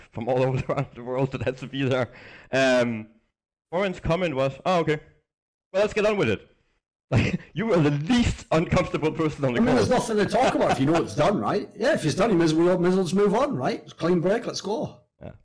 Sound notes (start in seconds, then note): 6.9 laughs